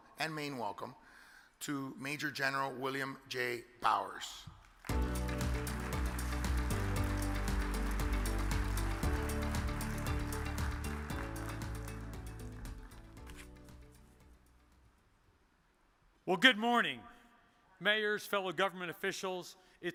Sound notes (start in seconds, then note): 4.8 audience applause; 4.8 uplifting music